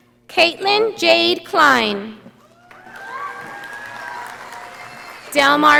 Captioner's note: audience applauding